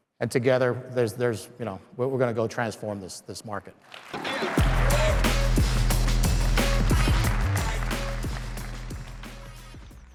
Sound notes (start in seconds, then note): 3.9 crowd clapping; 4.3 upbeat music